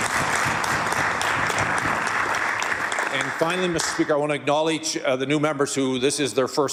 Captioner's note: applause